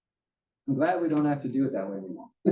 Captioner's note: laugh